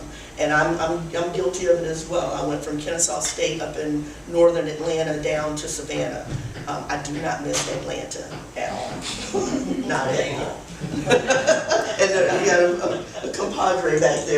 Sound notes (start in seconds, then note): 9.1 laughter